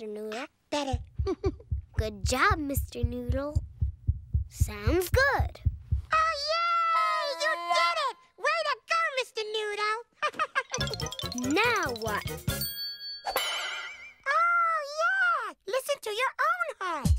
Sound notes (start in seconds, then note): 0.8 Elmo's heart beats; 10.2 laughs; 17.0 rhythmic music